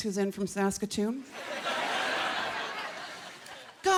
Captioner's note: laughter